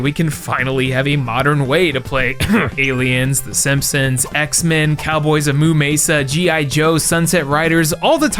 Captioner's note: ahem